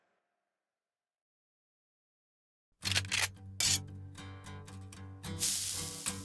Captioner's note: sizzle; guncock